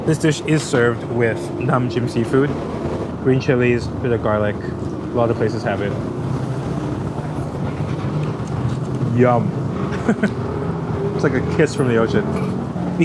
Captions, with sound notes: This dish is served with nam jim seafood, green chilies, bit of garlic. A lot of places have it. Yum! [chuckles] It's like a kiss from the ocean.